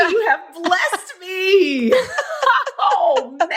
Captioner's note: laughs